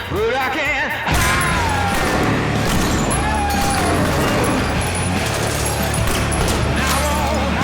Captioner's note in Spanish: Disparos